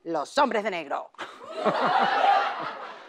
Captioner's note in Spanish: Risas